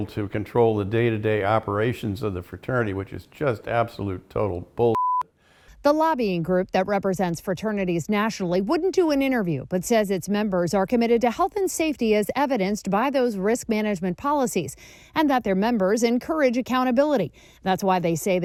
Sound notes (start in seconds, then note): 4.9 beep